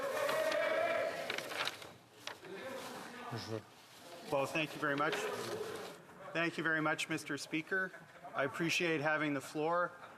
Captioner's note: speaking French